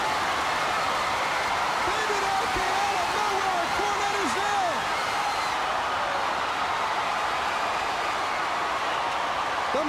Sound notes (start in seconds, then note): 4.6 crowd cheering